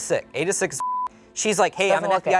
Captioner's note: beep